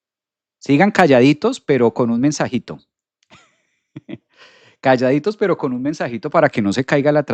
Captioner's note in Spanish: risas